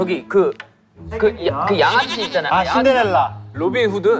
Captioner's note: mispronunciation